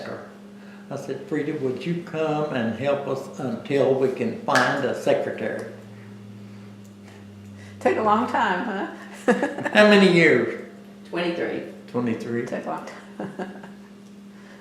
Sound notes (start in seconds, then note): 8.6 laughs